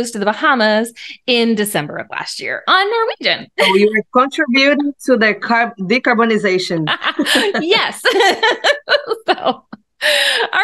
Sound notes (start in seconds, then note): 6.8 both laughing; 9.4 laughing